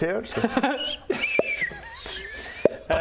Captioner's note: pop!